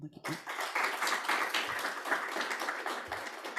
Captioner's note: applause